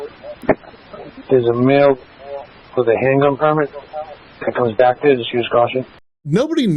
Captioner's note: radio traffic